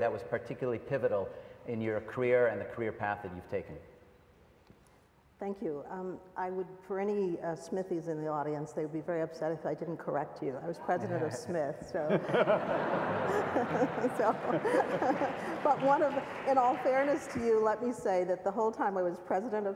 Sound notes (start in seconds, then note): 12.0 laughs